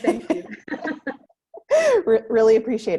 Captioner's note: both giggling